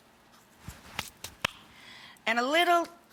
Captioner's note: brushing hands together